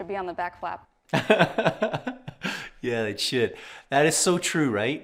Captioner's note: laughs